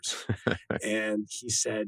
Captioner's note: laughs